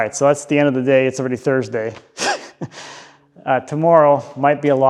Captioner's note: laughs